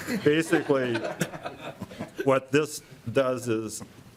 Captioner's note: laughing